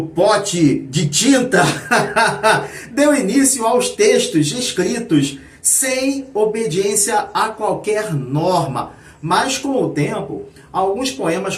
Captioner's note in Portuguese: risadas